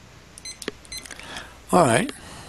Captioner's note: beeping